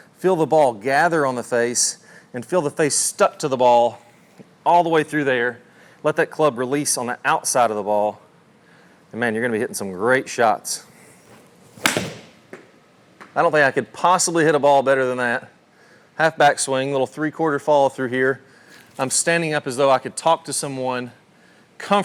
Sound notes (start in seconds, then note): 11.7 club thwacks